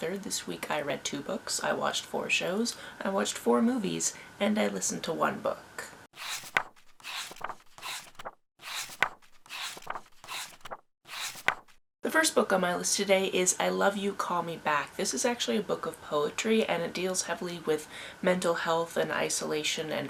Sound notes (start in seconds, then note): 6.1 pages turning